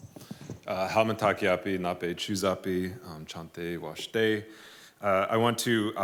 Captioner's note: non-english speech